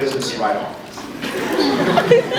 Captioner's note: scattered laughs